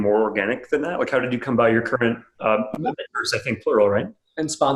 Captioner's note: murmurs